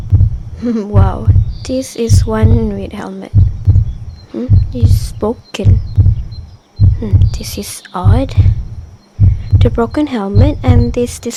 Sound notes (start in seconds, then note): none